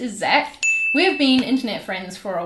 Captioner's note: ding